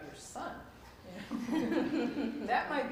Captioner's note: laughter